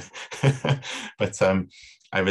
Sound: chuckles

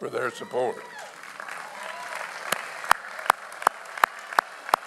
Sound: audience applauds

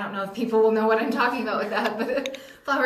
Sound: laughs

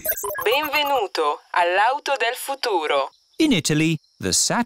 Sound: chuckles; beeps; speaks italian

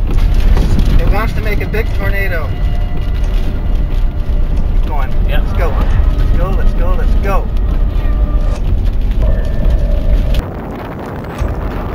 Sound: wind sound

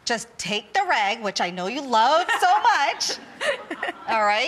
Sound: laughing

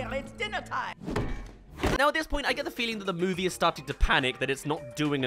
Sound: whack

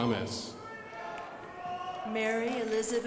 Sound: crowd applauding

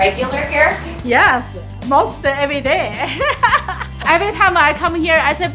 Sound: laughs

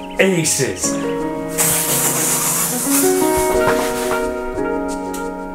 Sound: imitates gunfire; thoughtful piano music

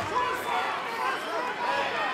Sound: trainers shouting

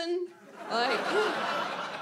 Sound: audience laughs

